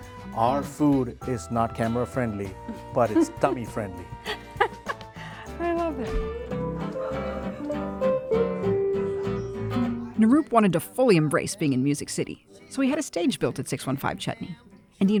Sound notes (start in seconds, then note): 4.2 laughs; 6.7 twangy music